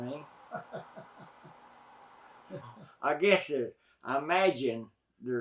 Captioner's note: interviewer laughs